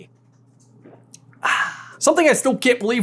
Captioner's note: happy ahhhhhhh